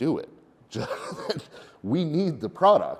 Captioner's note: chuckles